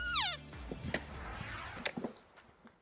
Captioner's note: elk call